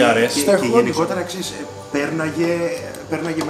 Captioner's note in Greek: none